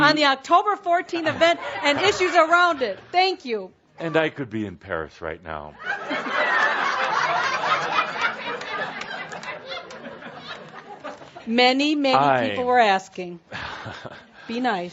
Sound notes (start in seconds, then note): 5.8 laughter; 5.8 much laughter